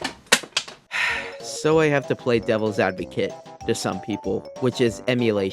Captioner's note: sigh